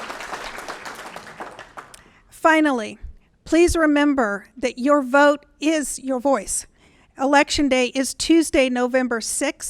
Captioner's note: applause